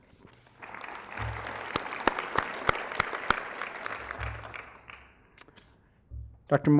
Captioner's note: applause